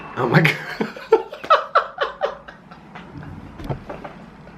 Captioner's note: laughing